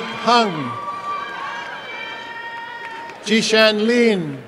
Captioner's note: applause and cheering